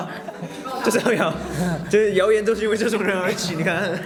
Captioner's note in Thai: กร๊ากกกก